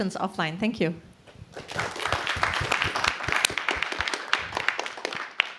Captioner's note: applause